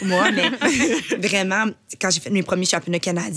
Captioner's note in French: rires